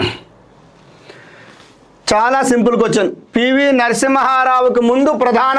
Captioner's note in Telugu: గొంతు సవరించుకోవడం